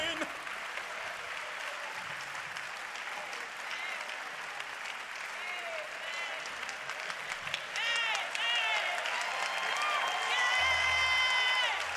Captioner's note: applause